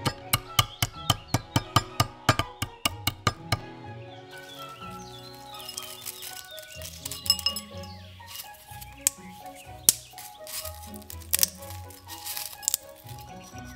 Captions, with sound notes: Cinnamon Stick *popping and cracking*